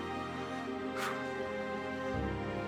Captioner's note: somber music; exhales